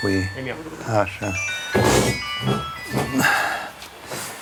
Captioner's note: phone ringing